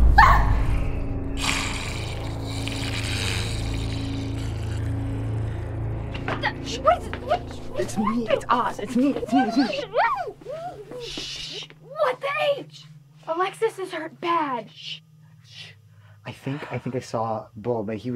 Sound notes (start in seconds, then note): 0.1 scream; 1.3 zombie hiss